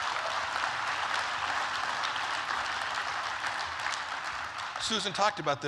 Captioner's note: applause